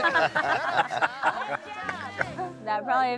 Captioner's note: family laughs